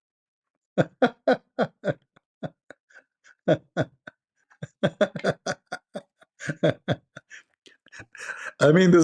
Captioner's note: Ketawa